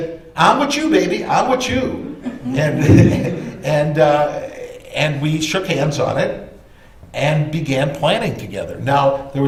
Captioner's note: laughter